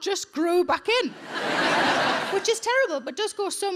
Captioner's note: audience laughing